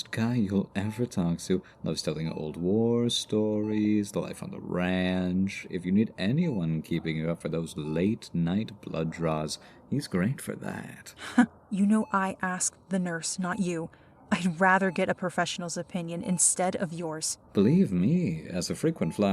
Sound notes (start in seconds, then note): 11.5 small Sarcastic Laugh